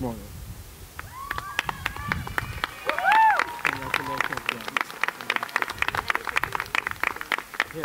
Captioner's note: applause